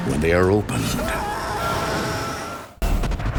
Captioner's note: man screaming